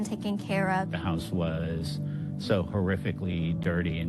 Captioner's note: speaking on video